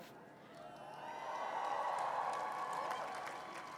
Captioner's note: cheering